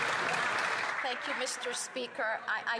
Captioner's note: some Applause